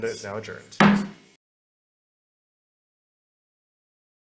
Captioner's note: gavel bangs